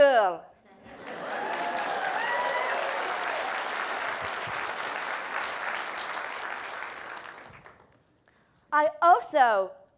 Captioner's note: applause